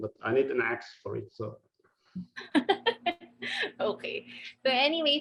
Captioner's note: laughing